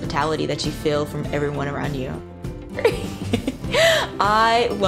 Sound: laughs

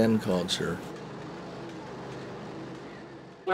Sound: sound of srl machines

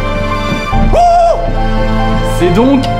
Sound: screams

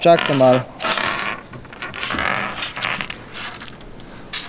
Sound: sound of clearing the table

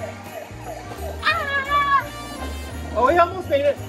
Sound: assistant screaming

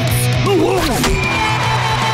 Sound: buzzing

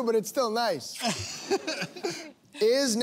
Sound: laughing

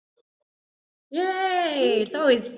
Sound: cheers

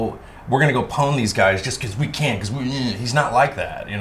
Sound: sneers

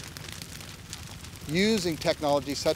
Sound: fire crackling

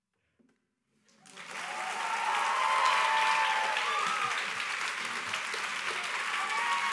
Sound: applause

